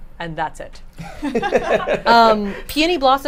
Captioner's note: all laugh